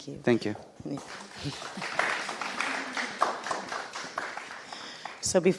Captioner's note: audience applauding